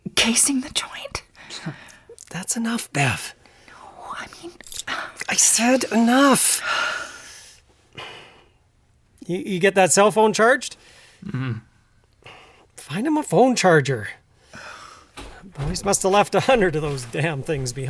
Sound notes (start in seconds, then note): 0.5 whispering; 11.2 affirmative grunt